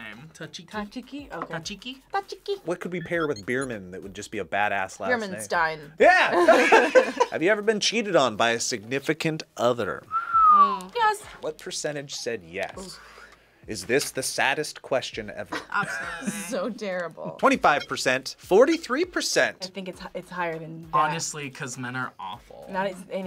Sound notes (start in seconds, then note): 6.1 laughs; 10.0 whistles